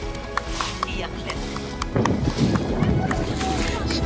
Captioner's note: clapping and chattering